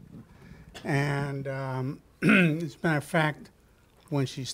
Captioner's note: clears throat